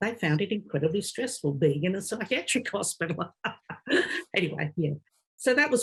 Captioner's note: laughing